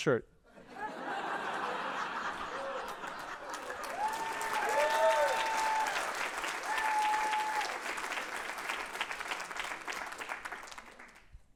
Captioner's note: cheering and applause